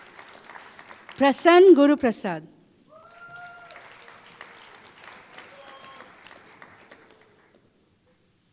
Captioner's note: applause